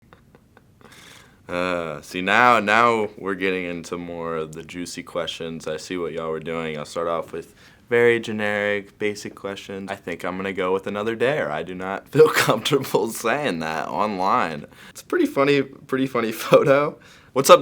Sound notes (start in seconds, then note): 0.0 laughing